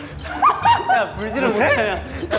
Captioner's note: haha